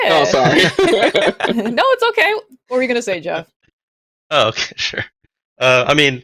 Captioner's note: laughter